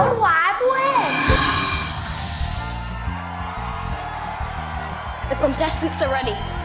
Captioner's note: crowd cheering